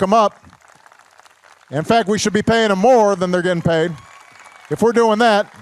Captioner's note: applause